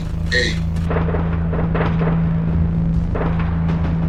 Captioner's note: guns blaring